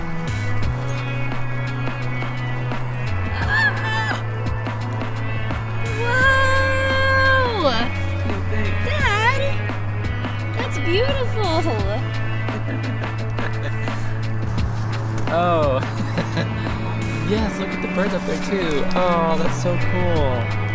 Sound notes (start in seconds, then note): 12.4 chuckles